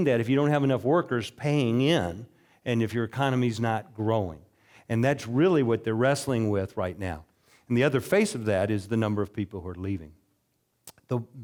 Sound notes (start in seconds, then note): none